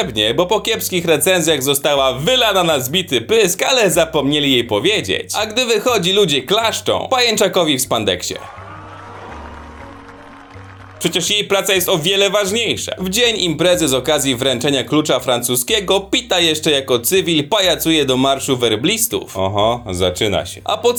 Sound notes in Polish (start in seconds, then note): 8.4 oklaski